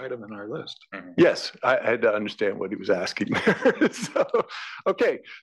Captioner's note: laugh